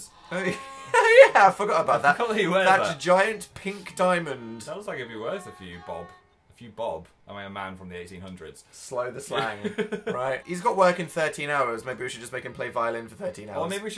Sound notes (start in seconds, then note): 9.3 laughs